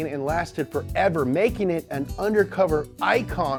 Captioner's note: none